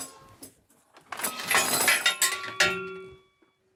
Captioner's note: metal rattles